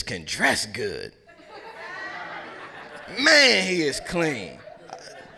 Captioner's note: laugh